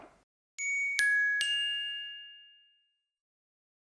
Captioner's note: bell rings